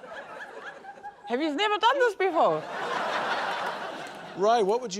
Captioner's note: laughter